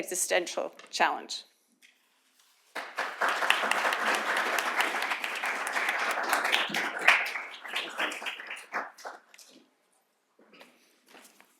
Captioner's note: applause